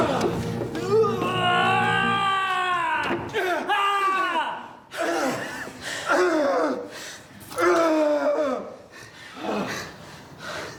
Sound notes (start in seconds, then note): 1.0 agonizing murder screams